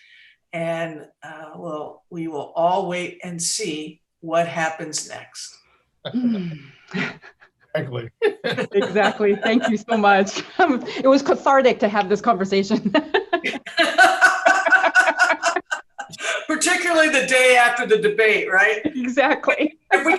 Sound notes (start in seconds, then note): 7.7 laughs; 12.8 all laughs